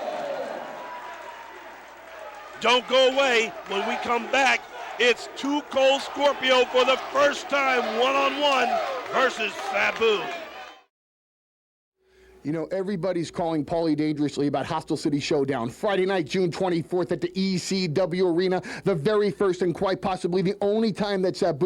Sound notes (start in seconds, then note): 0.0 crowd cheering; 5.9 crowd cheering